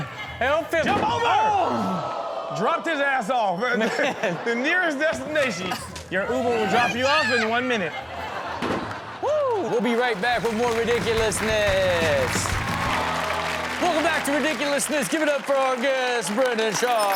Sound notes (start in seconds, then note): 10.3 upbeat rock music; 11.5 audience cheers